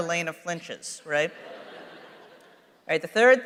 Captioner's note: laughter